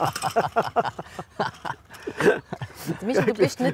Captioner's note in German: lachen